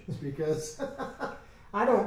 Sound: men laugh

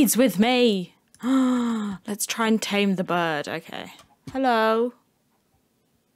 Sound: gasp

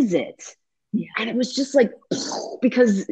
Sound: bursting sound

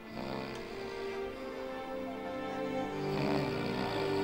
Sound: snoring

